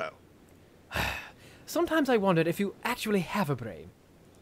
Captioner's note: sigh